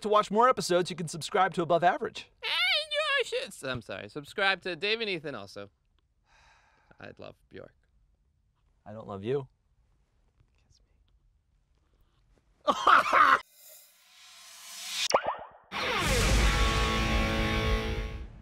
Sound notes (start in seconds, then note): 10.0 whispers; 12.6 laughs